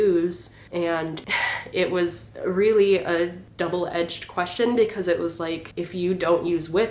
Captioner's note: sigh